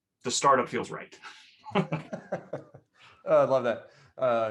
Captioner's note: laughs